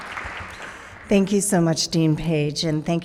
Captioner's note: audience applauding